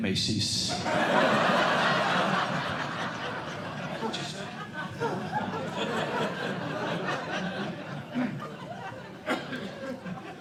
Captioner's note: laughter